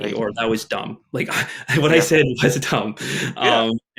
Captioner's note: chuckles